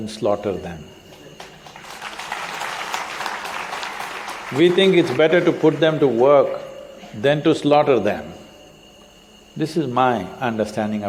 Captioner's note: applause